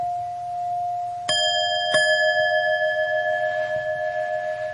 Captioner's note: bell chiming